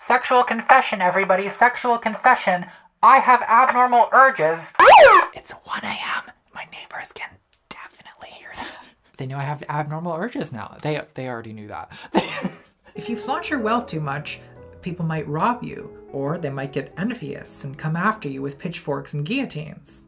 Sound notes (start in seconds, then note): 4.8 alarm